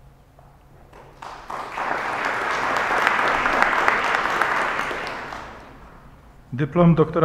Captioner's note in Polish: oklaski